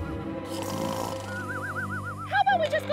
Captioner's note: snoring; suspenseful music